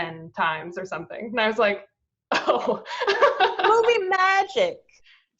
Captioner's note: laughs